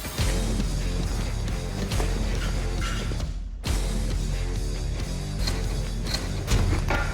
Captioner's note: blade impact sounds